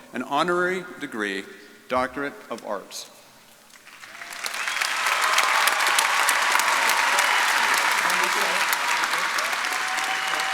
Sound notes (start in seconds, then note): 3.8 audience applauding